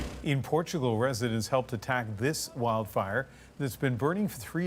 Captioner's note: speaking alternate language